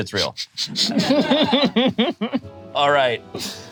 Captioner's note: group laughs